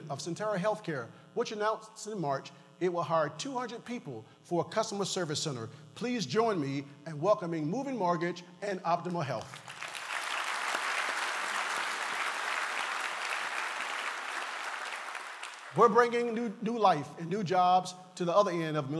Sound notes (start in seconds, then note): 9.4 applause